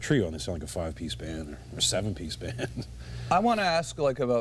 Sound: laughs

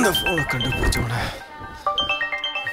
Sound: mobile ringing

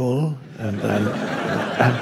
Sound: crowd laughs

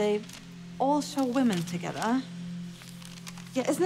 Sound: pages rustling; pages turning

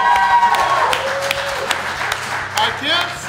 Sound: cheering & Clapping

